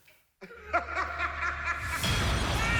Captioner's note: laughing sounds